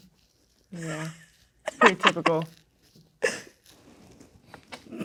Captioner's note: laughing